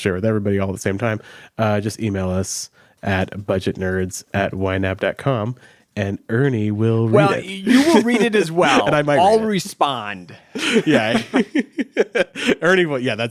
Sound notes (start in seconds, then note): 10.6 laughs